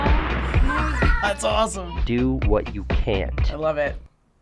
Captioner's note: chuckles